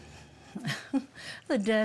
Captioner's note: chuckles